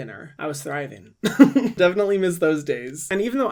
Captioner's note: chuckles